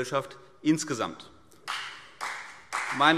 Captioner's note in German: Beifall CDU und BÜNDNIS 90/DIE GRÜNEN